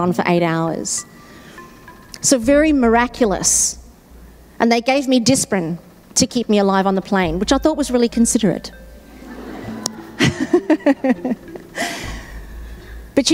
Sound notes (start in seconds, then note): 9.1 audience laughing; 9.4 laughing